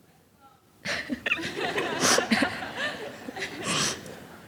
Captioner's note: audience laughs